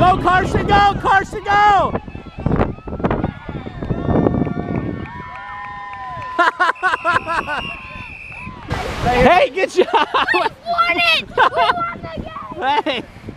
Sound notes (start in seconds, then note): 5.1 kids cheering and applauding; 6.8 laughing